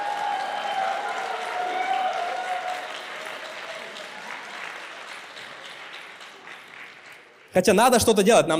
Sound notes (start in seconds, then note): 0.0 applause